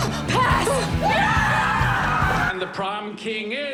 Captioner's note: yelling